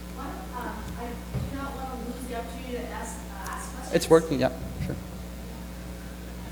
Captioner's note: audience member speaking off-mic